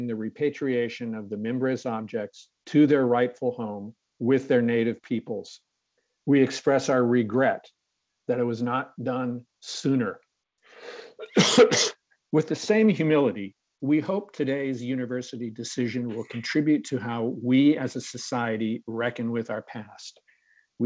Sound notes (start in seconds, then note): 10.9 coughs